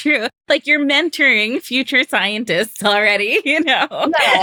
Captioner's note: laughing